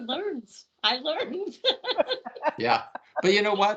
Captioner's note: laughing